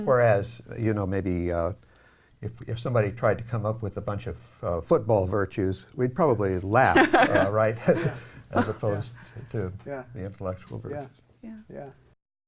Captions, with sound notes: Whereas, you know, maybe, if somebody tried to come up with a bunch of football virtues, we'd probably laugh. [all laughing] About it, right? As opposed to the intellectual virtues.